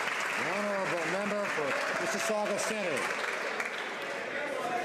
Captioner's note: some Applause